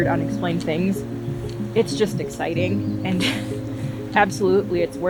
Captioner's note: laughs